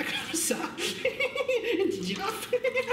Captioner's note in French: rire aigu